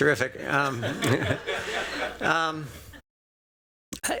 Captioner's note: laughter